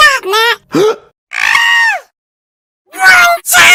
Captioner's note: screams